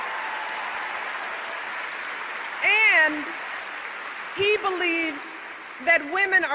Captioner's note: applause